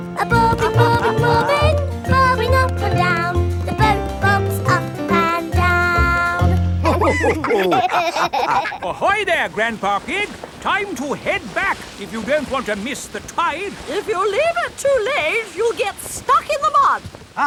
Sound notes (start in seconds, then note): 6.8 all laughing